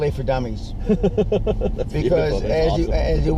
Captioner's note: laughs